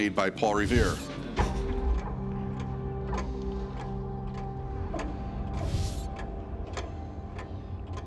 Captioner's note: ticking